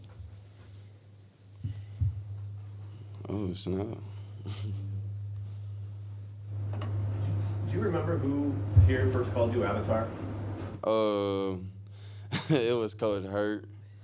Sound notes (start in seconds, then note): 4.4 laughs; 11.5 laughs